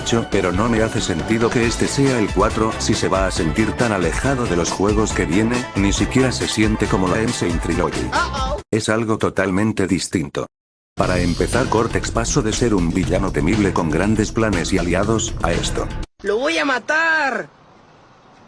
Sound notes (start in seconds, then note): 8.3 crash sound saying oh oh